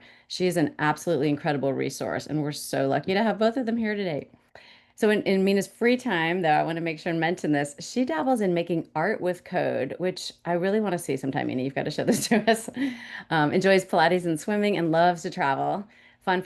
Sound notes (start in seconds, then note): 12.0 woman laughs